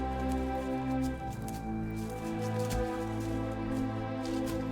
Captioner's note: footsteps